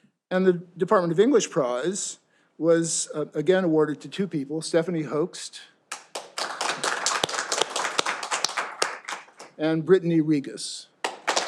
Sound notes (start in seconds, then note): 5.9 all applauding